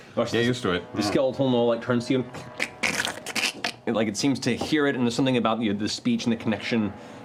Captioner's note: cracking